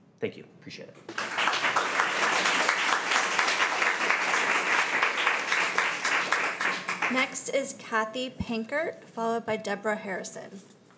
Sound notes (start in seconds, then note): 1.1 crowd clapping